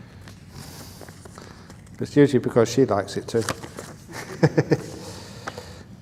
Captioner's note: laughs